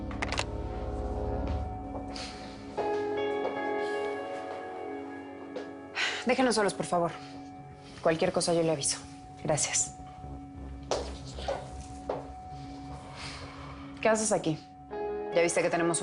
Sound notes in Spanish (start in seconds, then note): none